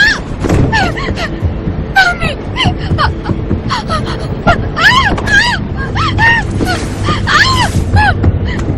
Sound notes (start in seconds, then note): 3.7 crying; 4.7 screaming